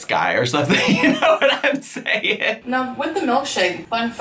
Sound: laughing

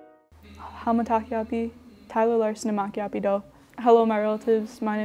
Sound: speaks in foreign language

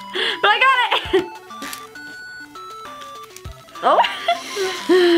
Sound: laughs

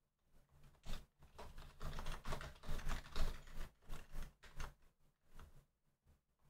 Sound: keyboard clattering

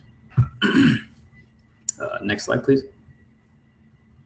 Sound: cough

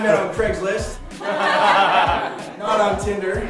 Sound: laughing

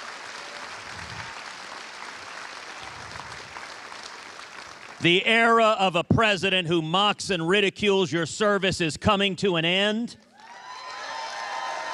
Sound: cheers and applause

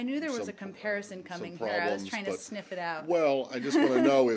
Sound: laughter

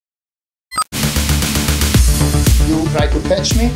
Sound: notice beeps; notice beeps off; energetic music starts

